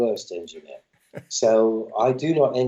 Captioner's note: laughter